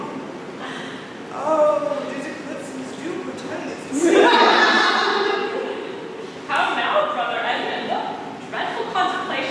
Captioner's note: laughter